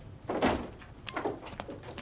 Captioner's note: Door opening